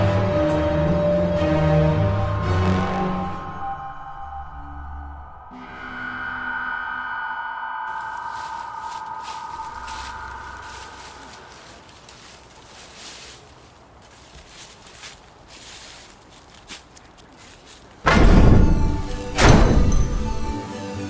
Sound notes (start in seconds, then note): 8.2 leaves rustling; 18.0 dramatic music